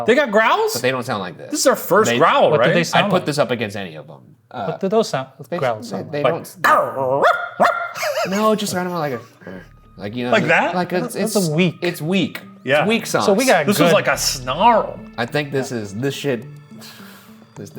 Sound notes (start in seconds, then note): 6.1 Shane barking